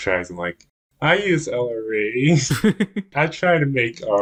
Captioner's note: laughs